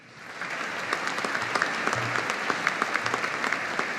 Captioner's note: audience applauding